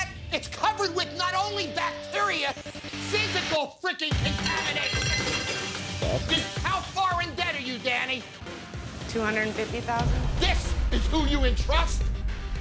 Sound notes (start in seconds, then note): 4.4 plate rattles